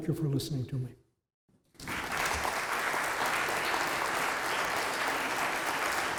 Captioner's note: applause